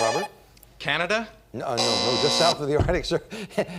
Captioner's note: buzzer